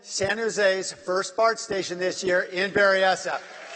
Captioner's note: applause